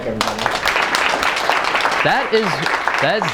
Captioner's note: clapping